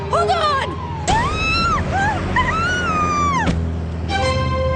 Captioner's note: screaming